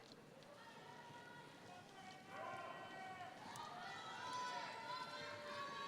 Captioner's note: audience members shouting